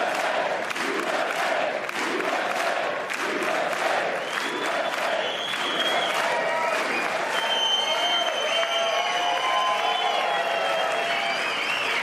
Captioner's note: applause